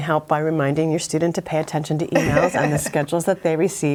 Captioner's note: laughs